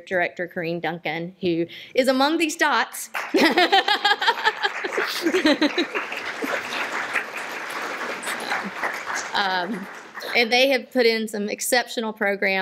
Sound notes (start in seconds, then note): 4.1 laughs; 4.9 applause